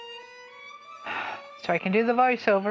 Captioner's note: sigh